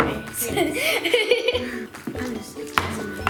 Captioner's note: laughter